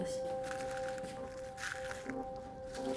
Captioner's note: leaves crunching in video